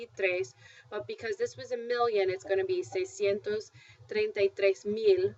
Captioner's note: spanish; spanish